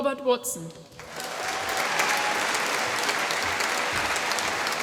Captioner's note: applause